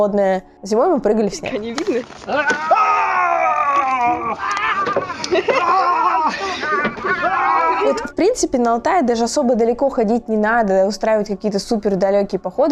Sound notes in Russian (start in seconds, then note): 2.3 люди кричат